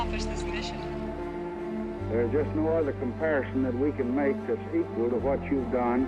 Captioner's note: on phone